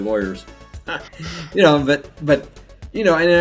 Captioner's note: laughs